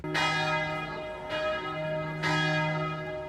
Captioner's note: bells ringing